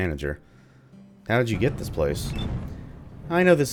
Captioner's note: thunder